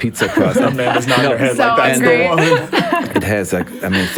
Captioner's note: laughs